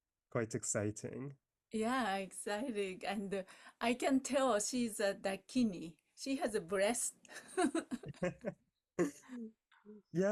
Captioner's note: laughing